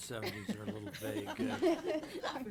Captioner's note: laughing